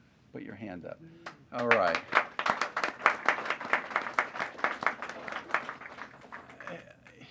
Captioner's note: applause